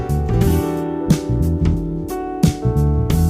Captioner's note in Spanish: none